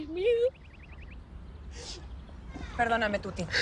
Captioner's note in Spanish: Sollozos